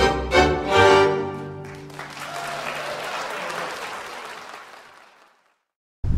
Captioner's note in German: Applaus